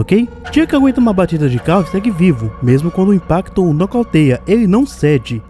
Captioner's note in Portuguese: batida de carro